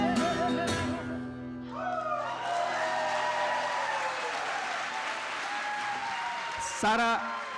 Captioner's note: applause and cheers